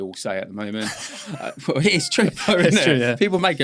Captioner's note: laughing